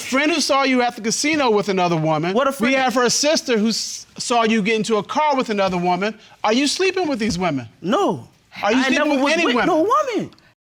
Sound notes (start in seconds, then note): none